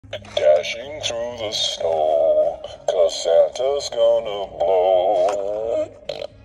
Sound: farts

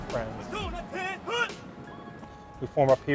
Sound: drill sergeant yelling

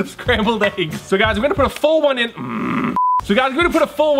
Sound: groans

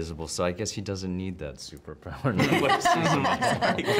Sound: chuckles

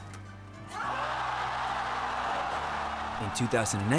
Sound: crowd cheers

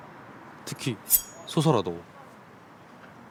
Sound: sing, sharp sound effect

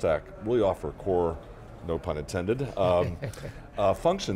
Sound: laughs

